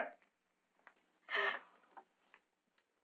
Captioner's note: gasping